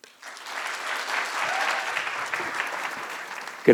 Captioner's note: audience claps